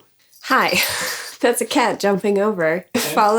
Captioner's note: cat bell jingling; laughs